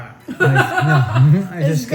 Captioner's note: laughter